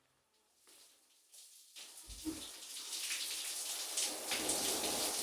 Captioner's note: water running